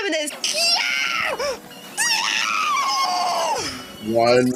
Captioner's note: full on Scottish banshee screaming of frustration